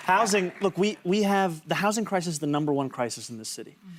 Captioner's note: applause